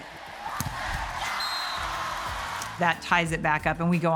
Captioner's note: spectators cheering; whistle blowing